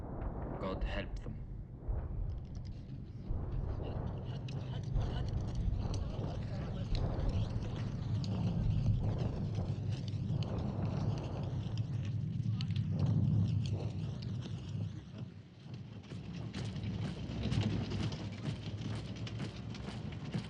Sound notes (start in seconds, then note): 2.9 chattering